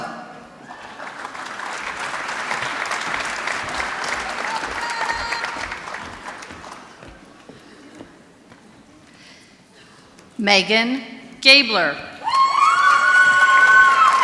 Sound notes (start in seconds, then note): 0.7 applause; 12.6 applause